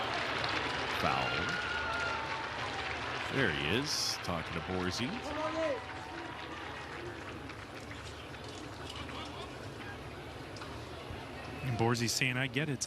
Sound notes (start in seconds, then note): 1.5 laughing